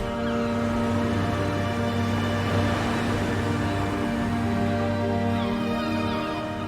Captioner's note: dramatic music; birds cawing; pensive music